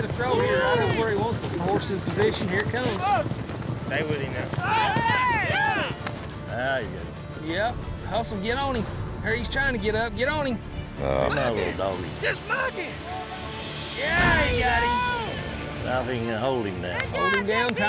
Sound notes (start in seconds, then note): 0.0 all shouting; 4.6 all shouting; 11.6 all shouting; 14.2 thuds down; 15.6 all shouting